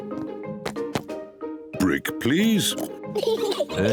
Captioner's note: both laugh